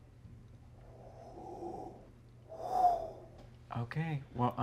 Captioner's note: imitates wind blowing